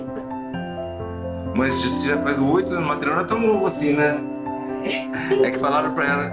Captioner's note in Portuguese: Risos